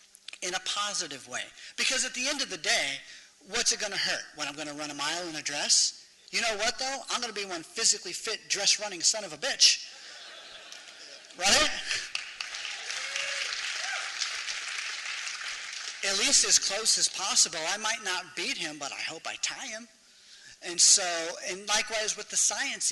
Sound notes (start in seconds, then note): 11.8 applause